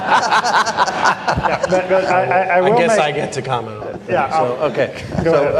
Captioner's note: laughter